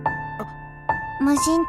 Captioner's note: alert